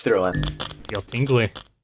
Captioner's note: static noises